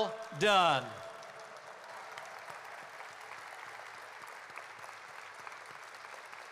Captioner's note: applause